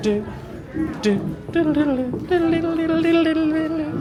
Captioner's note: hums